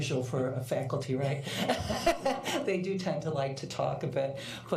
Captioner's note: laughter